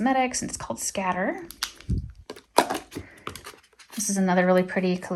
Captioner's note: item thudding